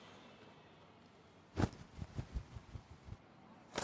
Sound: city ambiance, a bird cawing; a soft thud; a flutter

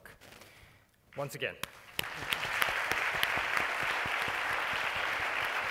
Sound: audience applauding

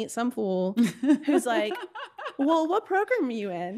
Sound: laughing

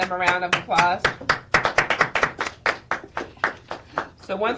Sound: members applauding

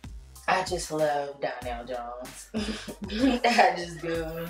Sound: chuckles

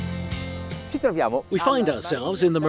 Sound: speaks in a foreign language

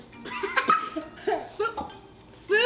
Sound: laughter

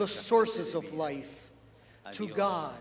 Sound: speaking alternate language

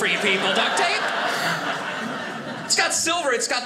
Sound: audience laughing

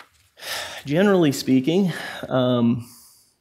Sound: sighs

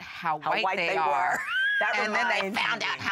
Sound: laughs

